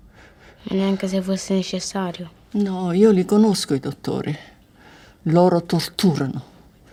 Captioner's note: both converse in foreign language